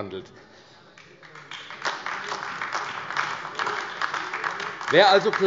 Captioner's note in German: Beifall AfD